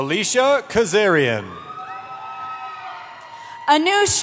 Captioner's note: cheering